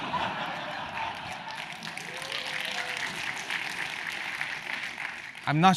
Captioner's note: laugh; applause